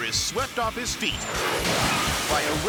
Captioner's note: jet engine whooshes